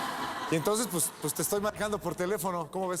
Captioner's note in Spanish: risas